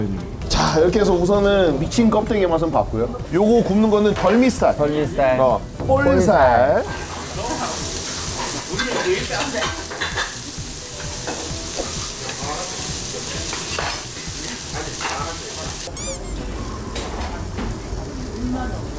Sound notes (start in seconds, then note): 7.8 sizzling